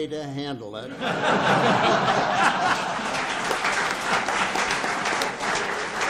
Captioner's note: audience laughs and applauds